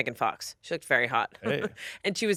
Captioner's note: laughs